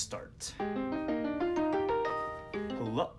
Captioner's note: ringtone